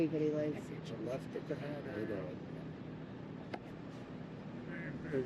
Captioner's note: airplane engine roaring